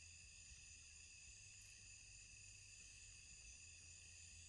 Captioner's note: insects buzz